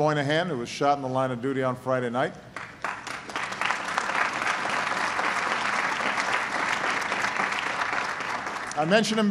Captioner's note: applause